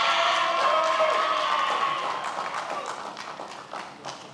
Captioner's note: many applauding